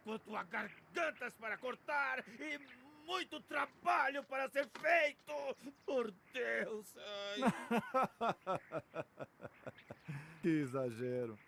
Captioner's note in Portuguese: risadas